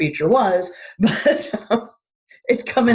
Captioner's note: laughing